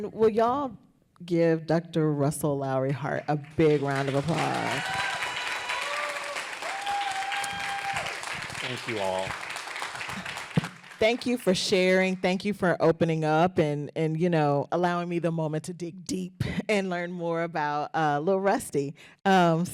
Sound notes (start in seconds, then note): 3.3 applause